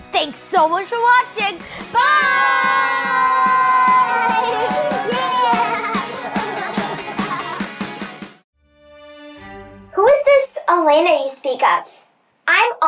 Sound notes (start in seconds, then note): 4.6 upbeat music; 6.9 all laughing; 8.7 mysterious music